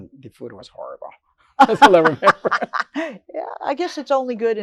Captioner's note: laughing